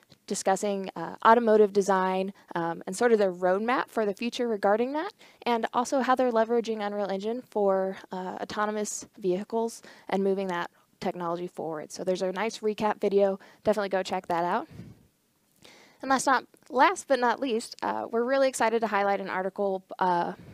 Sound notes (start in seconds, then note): none